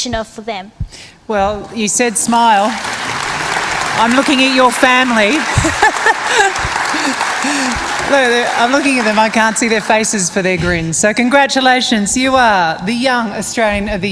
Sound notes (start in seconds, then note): 6.7 applause